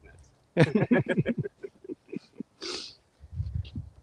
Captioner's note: laughter